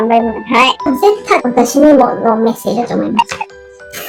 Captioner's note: laughs